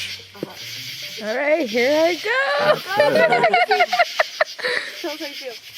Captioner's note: laughter